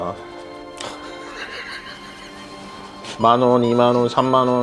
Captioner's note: bursts into laughter at his spending